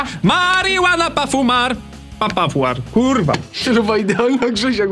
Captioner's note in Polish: śmiech